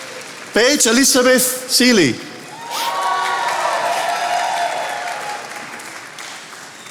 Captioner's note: attendees applauding